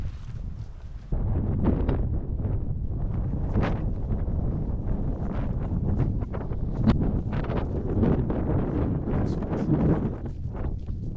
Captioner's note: wind